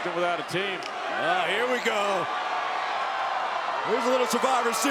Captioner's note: crowd cheers